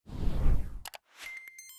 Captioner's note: whoosh; computer beeps